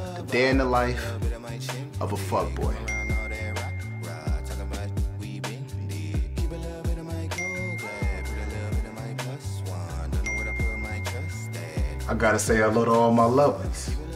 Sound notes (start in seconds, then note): 2.7 bell dinging; 5.2 R&B music; 5.2 bell dinging